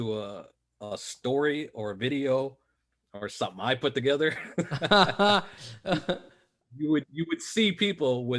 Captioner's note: haha